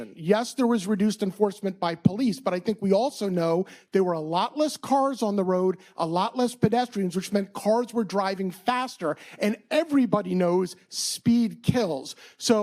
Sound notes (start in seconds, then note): none